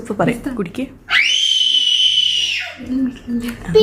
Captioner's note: baby wailing